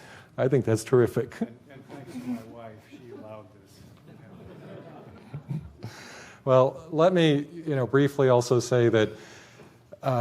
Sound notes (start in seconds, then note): 3.9 laughter